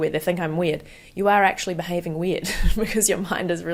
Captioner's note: chuckles